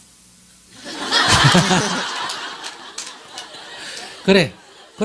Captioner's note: audience Laughter